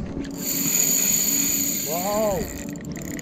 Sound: reel screaming

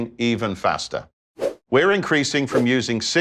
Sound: graphics whooshing

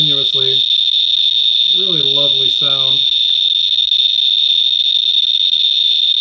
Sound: sarcasm

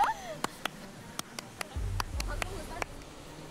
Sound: guides by clapping

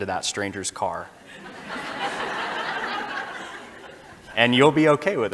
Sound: audience laughing

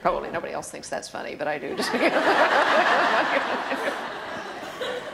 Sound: laughter

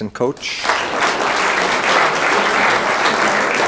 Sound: room applauds

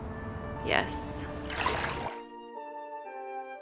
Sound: water splashes

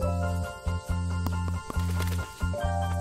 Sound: clacks teeth

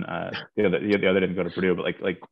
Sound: chuckles

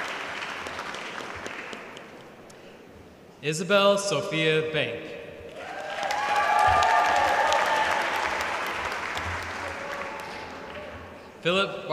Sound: applause

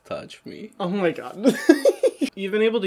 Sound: laughs

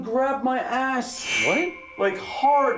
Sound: metal resonates

